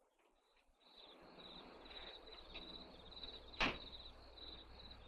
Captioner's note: crickets chirping